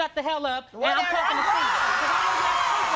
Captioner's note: crowd shouting